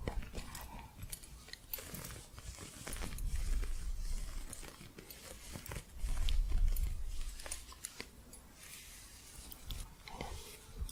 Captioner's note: soft scratching and gentle jingling